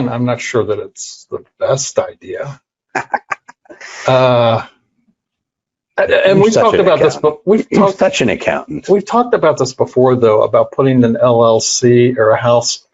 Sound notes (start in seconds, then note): 2.9 laughs